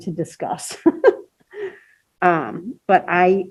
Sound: laughing

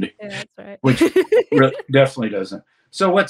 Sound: laughs

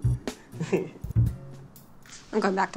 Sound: chuckles

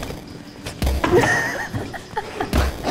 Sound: laughing off camera; laughing

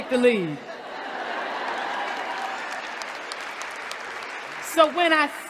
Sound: laughter, Applause

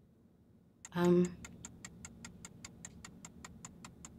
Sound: timer ticking

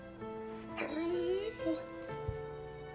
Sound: whining

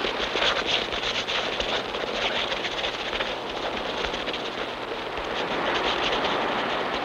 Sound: rapid digging

